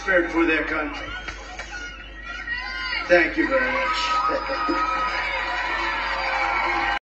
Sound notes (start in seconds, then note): 0.0 crowd cheering